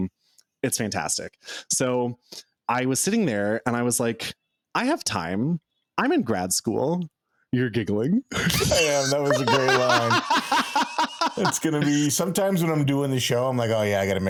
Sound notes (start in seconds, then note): 11.3 laughing